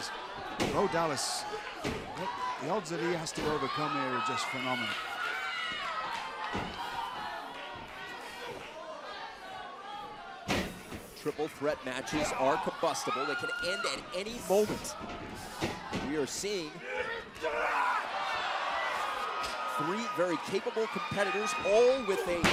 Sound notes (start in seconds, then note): 7.9 crowd chatter